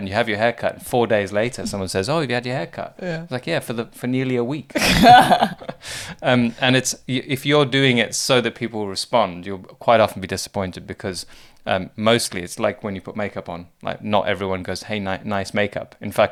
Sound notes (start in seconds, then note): 4.7 both laugh